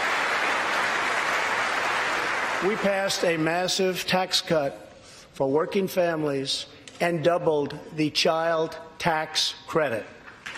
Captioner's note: applause